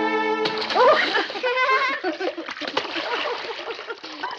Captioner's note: both laughing